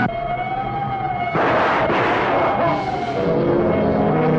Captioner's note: gunshots booming; sinister music